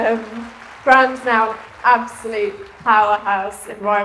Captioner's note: applause